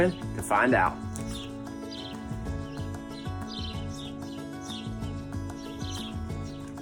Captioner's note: birds chirp; upbeat music